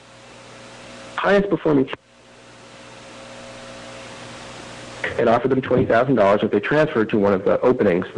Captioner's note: audio cutting in/out